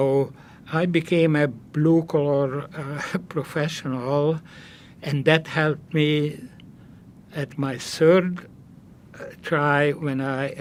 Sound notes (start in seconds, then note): none